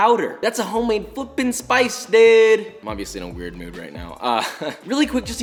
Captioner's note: laughs